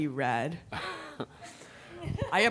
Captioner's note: laughs